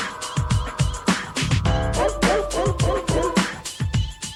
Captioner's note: dog Barking